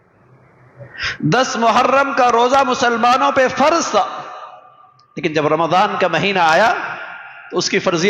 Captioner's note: sigh